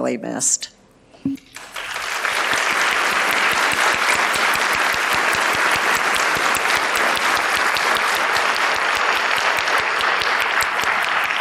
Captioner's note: applause